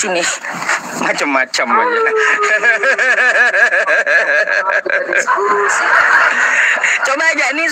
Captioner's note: laughs